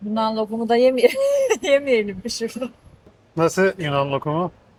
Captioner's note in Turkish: kahkaha